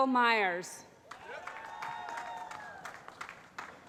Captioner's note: cheering